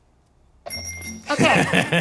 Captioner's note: bells rings; lawyer laughs